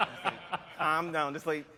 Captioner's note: laughter